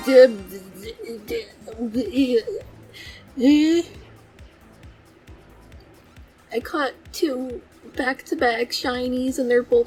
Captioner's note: stuttering in shiny confusion